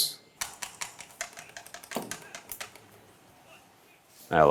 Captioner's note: lever clicks